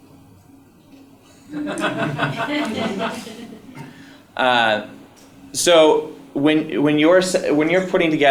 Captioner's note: laugh